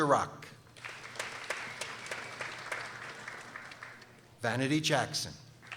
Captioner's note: people applauding